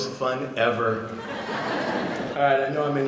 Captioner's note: audience laughing